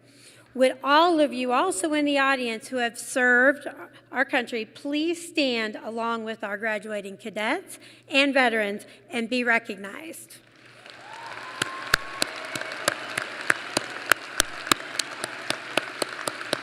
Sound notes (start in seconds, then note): 10.4 applause